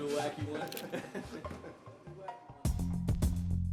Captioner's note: shutter